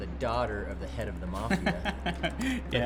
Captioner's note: laughing